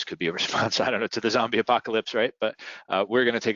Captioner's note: laughs